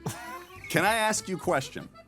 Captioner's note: laughing